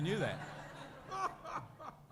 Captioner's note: laughter